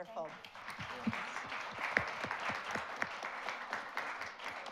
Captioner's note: audience applauds